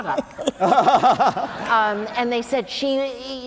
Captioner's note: laughter